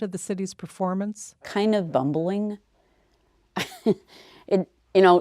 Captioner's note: chuckles